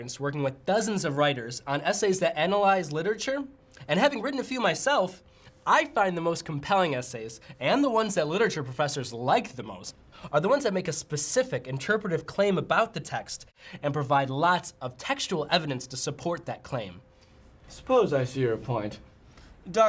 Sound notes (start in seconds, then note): none